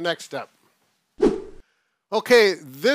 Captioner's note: air swooshing